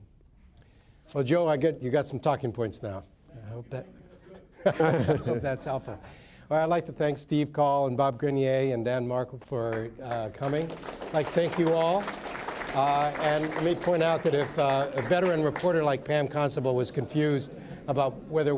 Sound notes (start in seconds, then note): 4.5 laughter; 12.4 applause